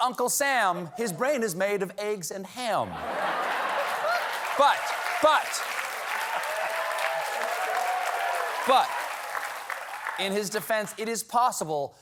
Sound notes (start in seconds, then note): 3.3 applause; 4.5 laughter